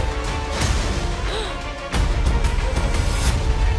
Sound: gasps

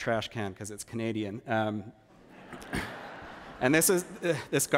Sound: laughter

